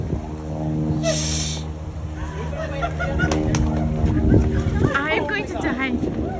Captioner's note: talks off-mic; laughs